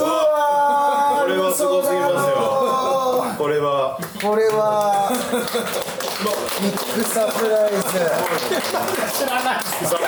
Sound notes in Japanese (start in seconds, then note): 4.0 拍手